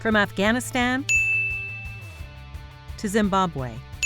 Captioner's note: dinging